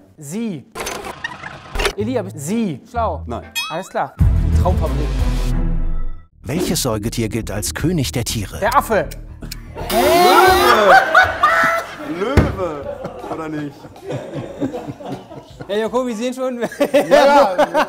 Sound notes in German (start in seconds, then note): 0.2 Rewind-Geräusch; 3.5 Boing; 4.2 Spannungsvolle Musik; 10.2 Lachen; 13.9 Lachen